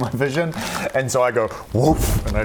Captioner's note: whoomph